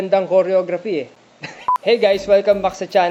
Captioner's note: laughs